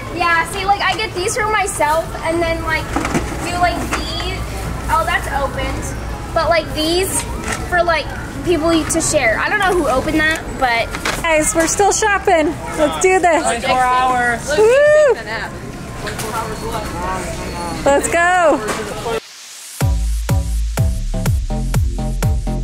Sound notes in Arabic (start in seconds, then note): 14.5 هتافات; 19.8 موسيقى مبهجة